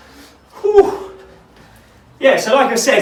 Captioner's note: sighing